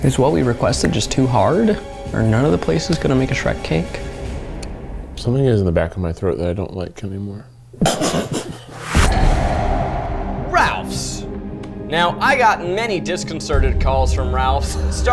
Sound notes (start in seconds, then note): 7.8 snorting; 8.7 dramatic music